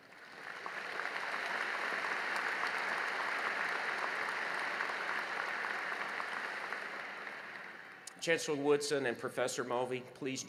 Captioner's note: applause